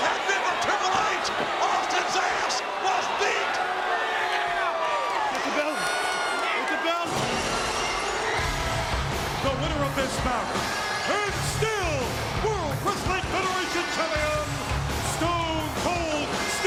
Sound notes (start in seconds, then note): 7.1 glass shattering; 8.6 rock music